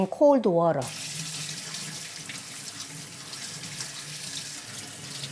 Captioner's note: faucet running